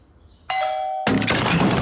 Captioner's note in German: Türklingel; Lautes Krachen